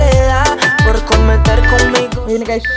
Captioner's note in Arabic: صوت المؤقت